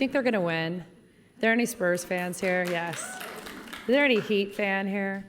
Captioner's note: applause